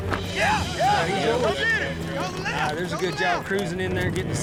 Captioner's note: all shouting